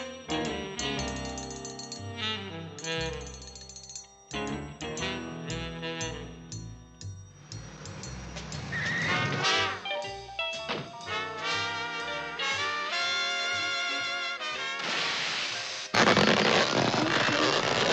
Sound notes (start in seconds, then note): 7.7 brakes screech; 14.8 air escaping